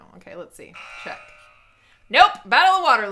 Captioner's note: buzzer sounds